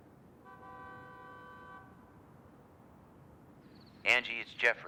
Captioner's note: car horn honks